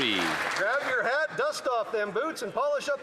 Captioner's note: some Applause